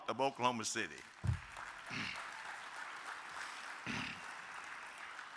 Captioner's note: audience applauding